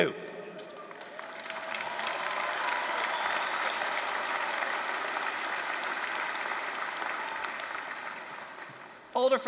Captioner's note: applause